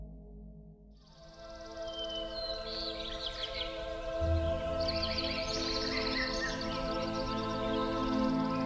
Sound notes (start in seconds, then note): 1.1 ethereal orchestral music; 1.3 birds chirp